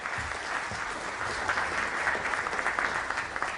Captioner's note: applause